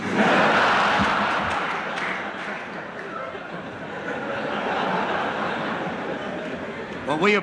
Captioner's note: laughter